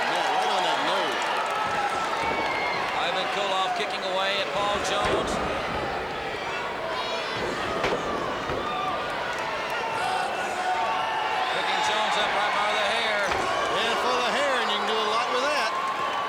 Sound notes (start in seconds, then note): 6.6 crowd chatter